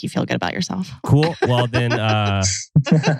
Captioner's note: laughs